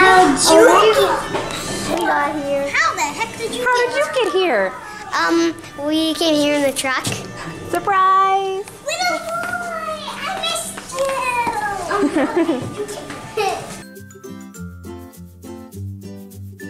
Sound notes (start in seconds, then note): 11.9 laughing; 14.0 light music